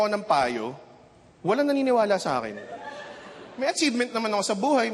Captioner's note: chuckling